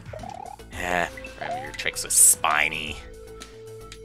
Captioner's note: sigh